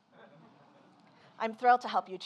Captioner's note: Mark laughs